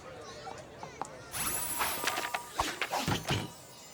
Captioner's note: tinkling